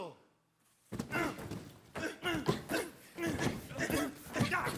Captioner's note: boxes thudding